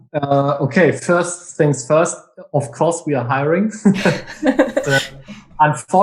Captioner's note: laughs